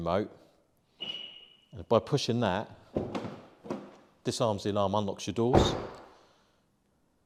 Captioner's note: beep